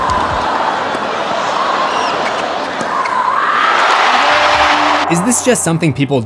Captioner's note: screams